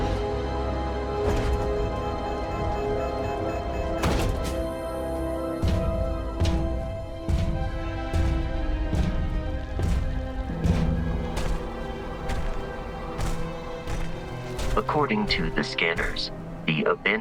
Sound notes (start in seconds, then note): 4.6 beeping